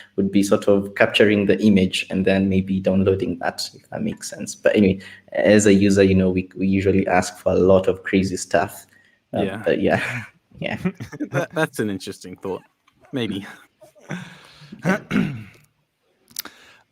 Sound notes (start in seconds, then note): 10.7 group laughs